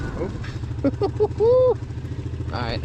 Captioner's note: laughs